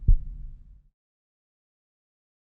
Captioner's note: no sound; heart beating slowly